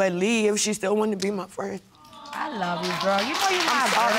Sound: sobs

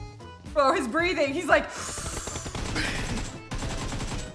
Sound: inhales deeply

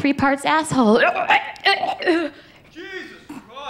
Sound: gags

